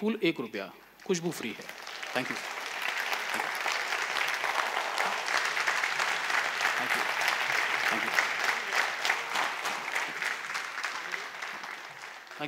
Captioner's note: applause